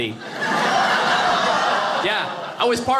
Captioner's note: audience laughing